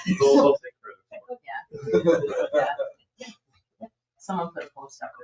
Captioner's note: members laugh